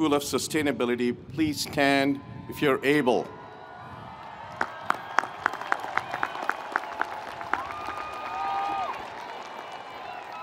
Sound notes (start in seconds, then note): 3.6 audience cheering; 4.5 audience applauding